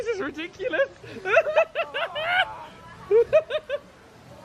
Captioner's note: laughs